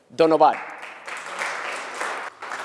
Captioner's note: applause